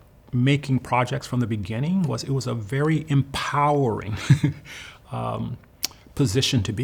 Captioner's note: laughs